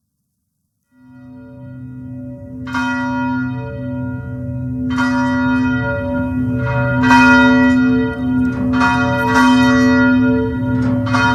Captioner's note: bell Ringing